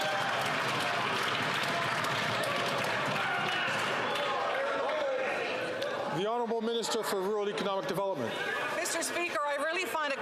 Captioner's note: some Applause